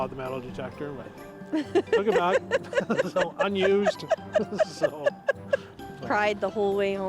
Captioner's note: laughter